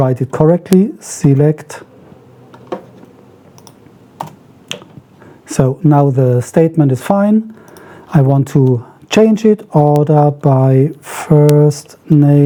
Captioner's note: typing